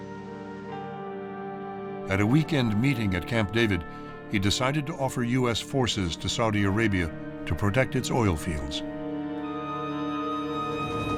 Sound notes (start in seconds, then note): none